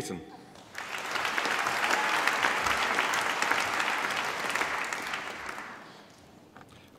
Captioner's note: applause